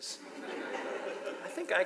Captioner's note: audience laughs